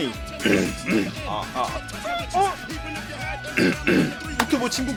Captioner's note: father clearing his throat